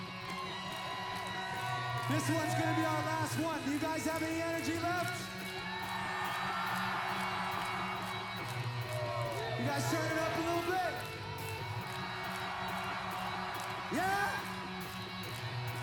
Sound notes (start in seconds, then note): 8.3 applause